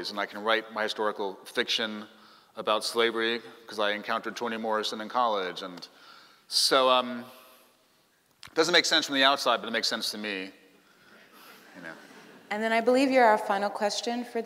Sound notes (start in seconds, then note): 11.4 laughing